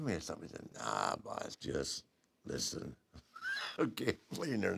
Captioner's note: laugh